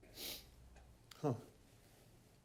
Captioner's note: man sniffs